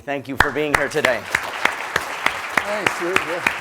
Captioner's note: applause